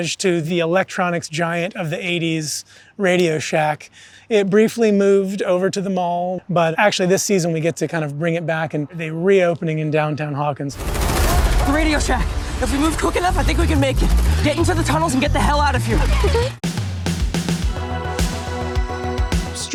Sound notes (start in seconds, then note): 10.8 gunshots popping; 17.2 upbeat music